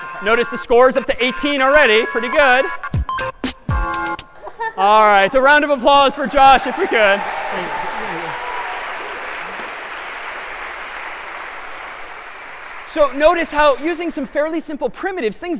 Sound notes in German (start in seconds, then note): 6.2 applaus